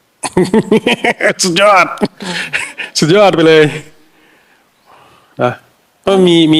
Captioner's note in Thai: เสียงหัวเราะ